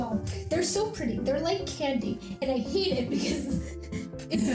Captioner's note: chuckles